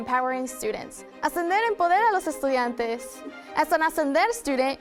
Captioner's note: student speaking in foreign language